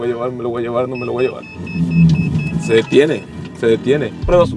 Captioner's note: alarm beeping